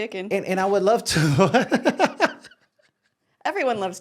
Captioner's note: laughing